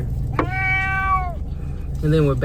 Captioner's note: meow